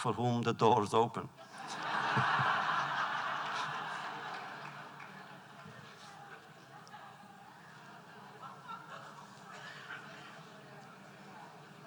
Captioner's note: laughter